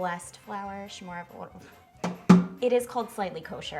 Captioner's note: bang